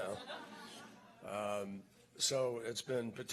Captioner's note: laughter